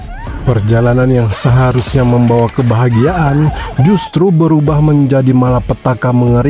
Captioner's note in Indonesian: tertawa